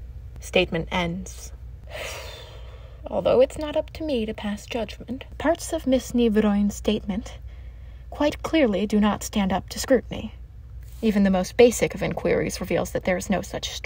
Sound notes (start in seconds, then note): 1.9 short sigh